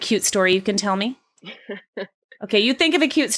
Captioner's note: laughs